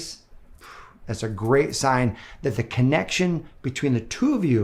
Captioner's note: blows